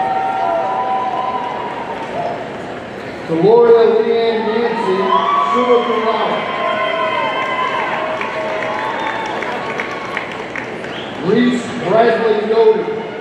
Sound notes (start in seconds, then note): 0.0 audience cheering; 6.7 audience cheering and applauding